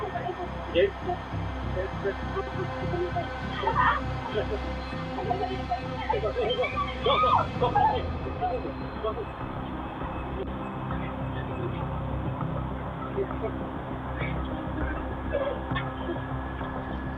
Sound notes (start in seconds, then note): 2.2 indistinct chatter; 3.6 woman groans; 5.7 tense music plays